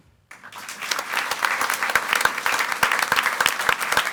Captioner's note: audience applauds